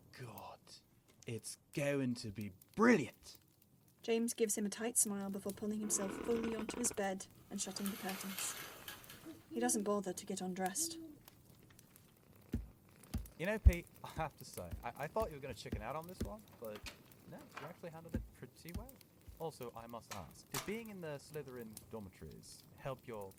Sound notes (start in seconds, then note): 7.7 curtains slide; 16.5 pages turn; 18.7 door opens